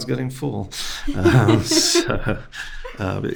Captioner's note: host laughing